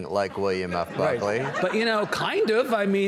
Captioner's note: audience laughs